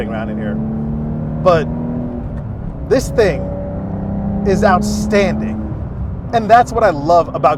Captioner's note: car engine revving